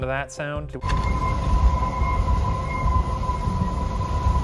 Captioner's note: wind whistling